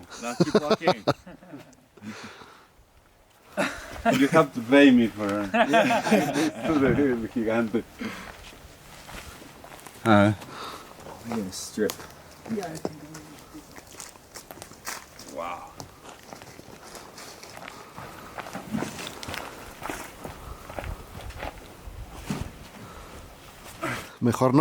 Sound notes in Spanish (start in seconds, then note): 0.3 risas